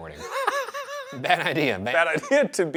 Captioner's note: Shane laughs